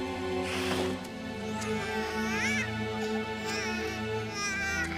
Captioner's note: crying